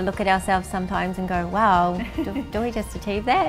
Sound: laughs

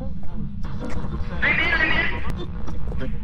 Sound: over Radio

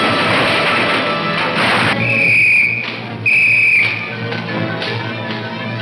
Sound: whistle tweets

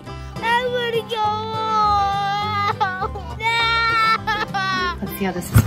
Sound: cries

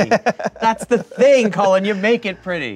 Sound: laughing

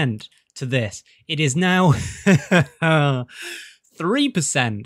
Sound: laughs; sighs jokingly

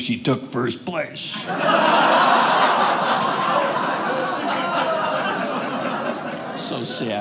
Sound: audience laughing

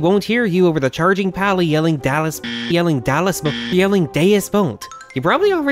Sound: buzzer sound

